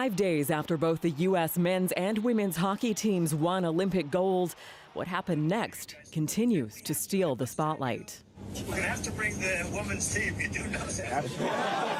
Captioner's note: cheering